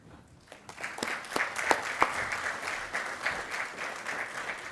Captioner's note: attendees applauding